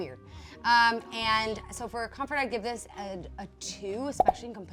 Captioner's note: popping